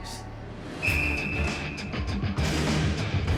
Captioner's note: whistle blows